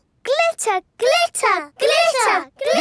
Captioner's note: chanting